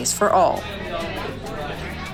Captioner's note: crowd noise